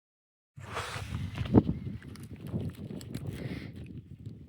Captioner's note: wind Blowing